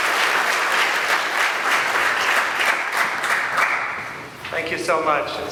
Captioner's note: applause